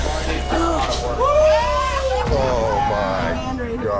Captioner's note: bar guests laugh